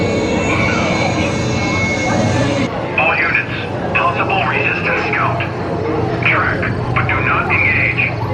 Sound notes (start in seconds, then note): 1.6 Storm trooper talking